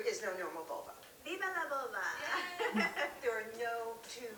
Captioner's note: laughs